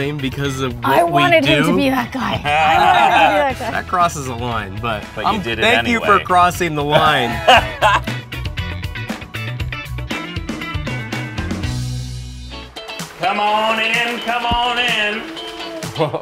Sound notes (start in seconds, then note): 2.4 laughter; 6.9 laughter; 7.3 upbeat music; 15.9 laughs